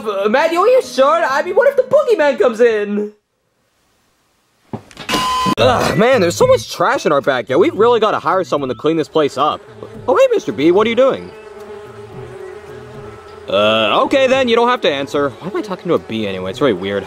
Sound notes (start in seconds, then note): 5.0 metal clanging; 11.3 bee buzzing